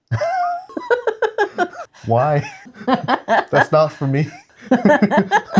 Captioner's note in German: lacht